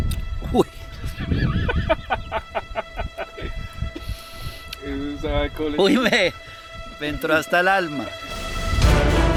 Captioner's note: laughs